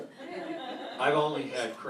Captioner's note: laughter